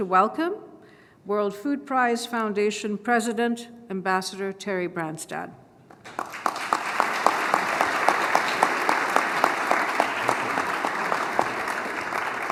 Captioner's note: applause